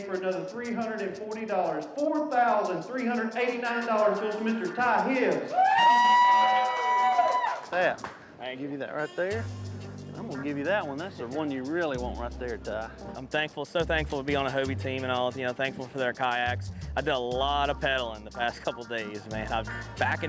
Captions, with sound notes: - First in the AA for another $340. $4,389 goes to Mr. Ty Hibbs! (crowd cheering) - I give you that right there. I'm gonna give you that one. That's the one you really want right there, Ty. - I'm thankful, so thankful, to be on a Hobie team. And I'm thankful for their kayaks. I've done a lot of peddling the past couple days,